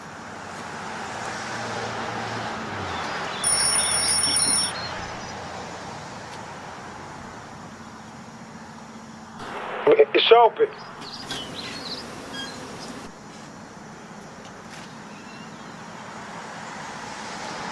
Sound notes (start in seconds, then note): 3.4 doorbell rings; 10.2 voice Over Com